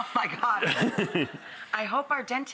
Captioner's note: audience laughing